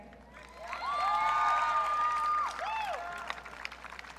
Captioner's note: audience cheering